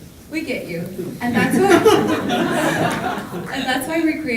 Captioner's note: audience laughing